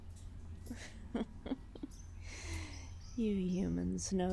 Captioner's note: chuckling